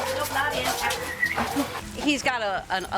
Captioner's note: whistling